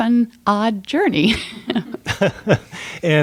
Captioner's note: chuckle